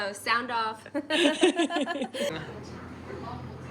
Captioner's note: laugh